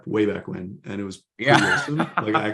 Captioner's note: laughs